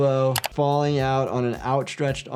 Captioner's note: keyboard clicking